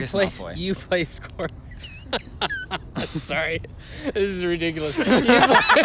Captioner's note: laughs; laughter